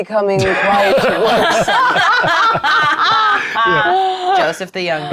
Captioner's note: players laughing